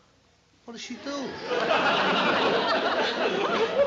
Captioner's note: laughter